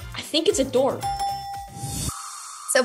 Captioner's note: dinging